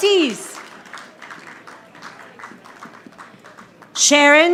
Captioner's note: audience applauding